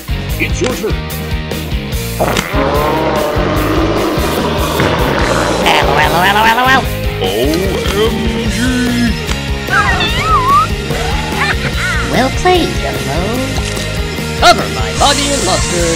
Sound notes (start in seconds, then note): 2.2 exclaims; 9.3 laughter; 9.7 kittens meowing, purring